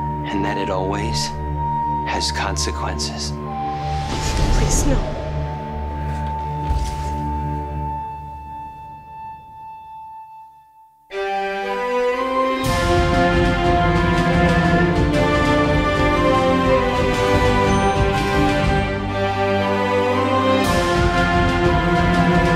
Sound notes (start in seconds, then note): 5.8 Adeline hitting the floor; 11.1 upbeat theme music